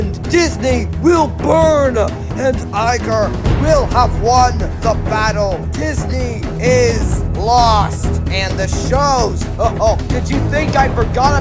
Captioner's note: jabba laugh